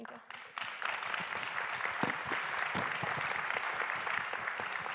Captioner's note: audience applauding